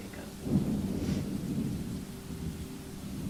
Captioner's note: thunder